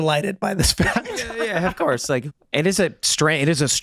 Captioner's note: Megan, Charlie laughing